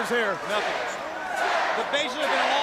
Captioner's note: crowd cheering